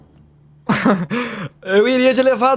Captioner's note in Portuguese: risada